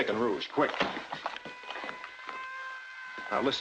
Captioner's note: siren blaring